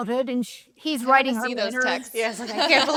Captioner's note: speakers laugh